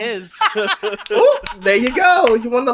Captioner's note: laughs